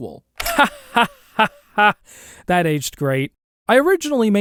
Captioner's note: laughs